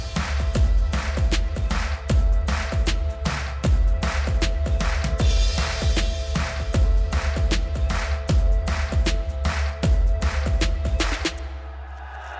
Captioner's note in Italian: Applauso